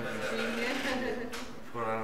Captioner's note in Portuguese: risos